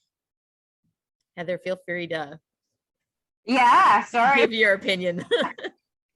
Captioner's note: laughs